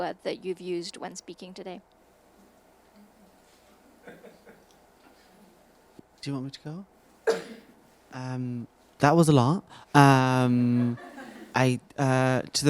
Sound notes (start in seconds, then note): 3.9 attendee laughing; 10.7 attendees laughing